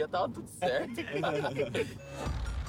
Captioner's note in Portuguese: risos; hip hop tenso